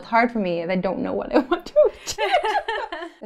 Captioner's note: laughing